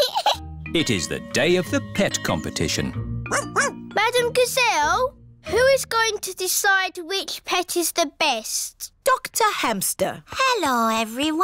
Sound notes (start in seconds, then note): 3.3 barks